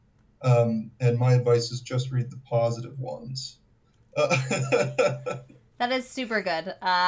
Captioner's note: laughs